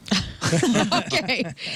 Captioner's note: laughing